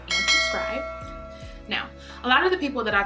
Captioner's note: bell ringing